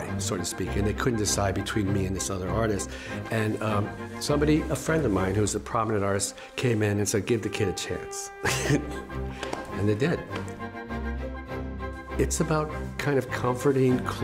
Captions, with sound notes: and somebody, a friend of mine who is a prominent artist, came in and said, "Give the kid a chance." (laughs) And they did. It's about kind of comforting,